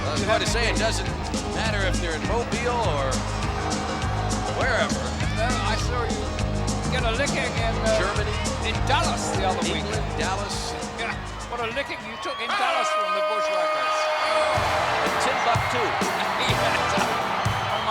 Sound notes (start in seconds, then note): 11.3 laughs